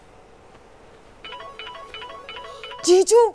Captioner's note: Phone ringing